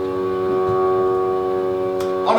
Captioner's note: SFX - Boat Horn